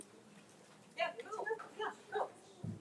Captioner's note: speaks faintly